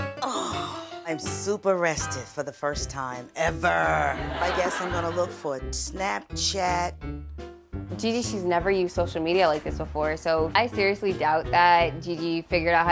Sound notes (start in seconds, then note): 3.9 audience laughing